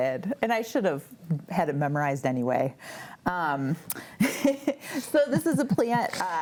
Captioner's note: laughs